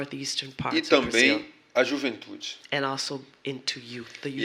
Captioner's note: speaking portuguese